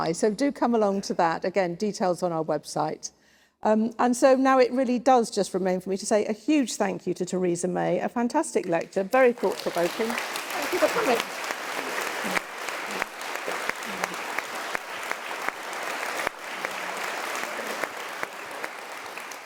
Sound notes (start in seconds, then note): 11.9 applause